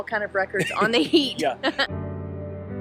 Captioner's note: laughs; soft music